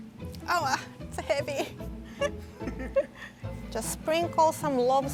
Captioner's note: laughing